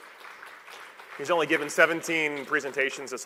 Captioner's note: applause